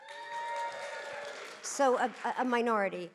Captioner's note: audience cheering